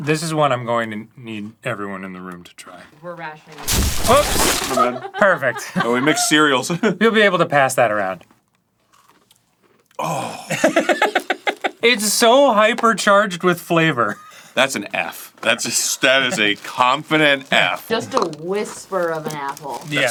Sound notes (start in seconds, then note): 10.0 groans; 10.5 cackling